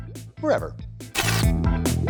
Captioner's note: TV Static SFX